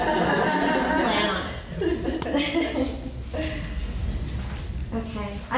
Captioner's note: laughing; laughs